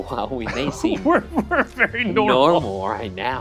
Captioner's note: laughs